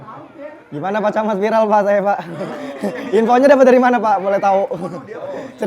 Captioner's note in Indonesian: tertawa